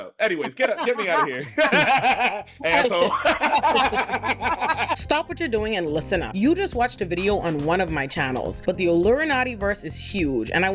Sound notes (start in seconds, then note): 3.5 laughing